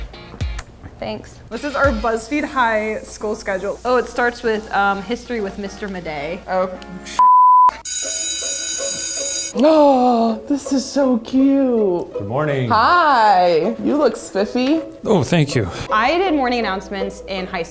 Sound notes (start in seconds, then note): 7.2 beeping; 7.8 bell ringing